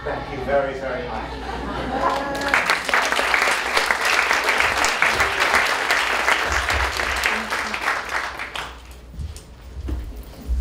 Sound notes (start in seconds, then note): 1.9 applause